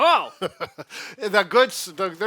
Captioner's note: gasps